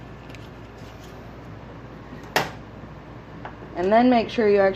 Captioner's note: the sound of me turning off the wrong burner